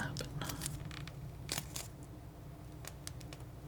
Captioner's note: scratching noise